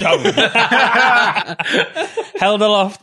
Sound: laughter

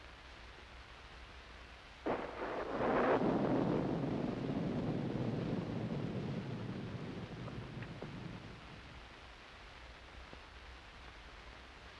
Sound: thunder

